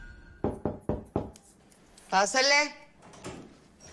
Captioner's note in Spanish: Toques en la puerta